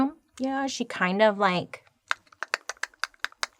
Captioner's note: imitates broomstick tapping